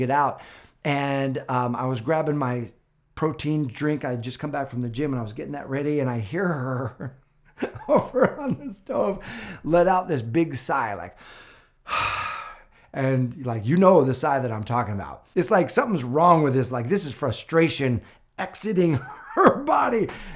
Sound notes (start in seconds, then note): 11.8 sighs